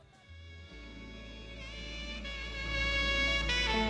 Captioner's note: crickets chirp & cows moo